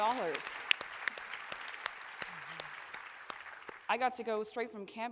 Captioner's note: applause